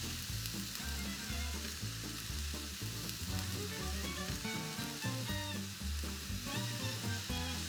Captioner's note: greens simmering in the pan